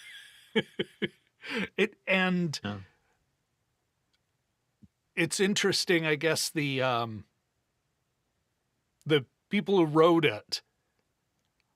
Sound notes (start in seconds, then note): 0.0 laughing